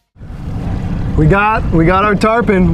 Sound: boat engine humming

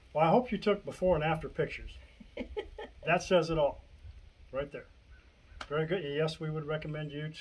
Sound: giggles

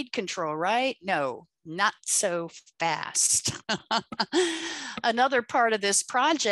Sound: laughs

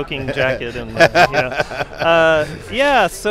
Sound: laughs

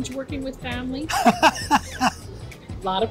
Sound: laughs

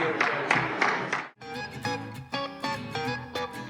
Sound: applause; soft beat music

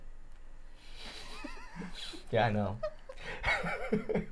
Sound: chuckling

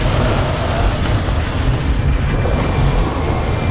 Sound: engine revving

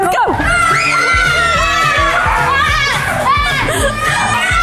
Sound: excited screaming

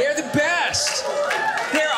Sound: audience cheering

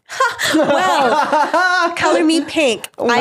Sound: laughing

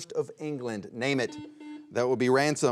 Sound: buzzer beeps twice

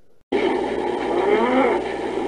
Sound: Shadow Growls

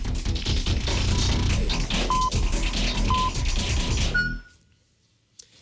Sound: electronic beeping

